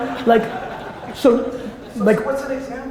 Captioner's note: audience laughter